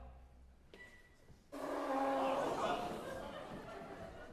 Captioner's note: GABRIELLE blows her nose